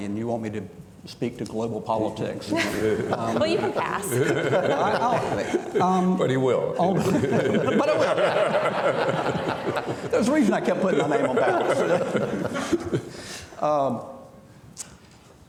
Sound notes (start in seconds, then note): 6.8 audience laughing